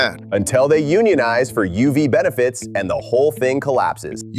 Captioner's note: sarcastically